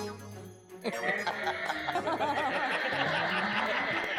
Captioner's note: laughing